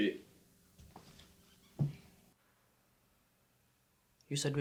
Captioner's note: footsteps stumping